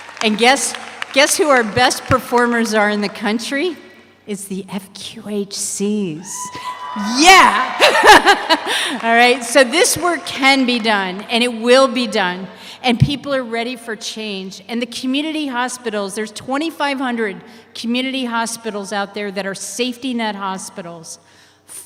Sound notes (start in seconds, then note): 6.4 audience cheers; 7.6 laughs